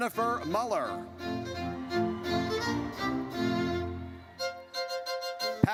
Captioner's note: audience cheers